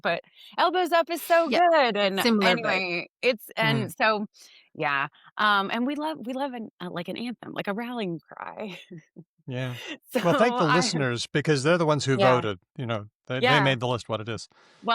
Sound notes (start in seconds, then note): 9.5 laughs